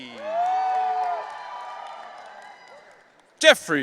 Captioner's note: audience cheering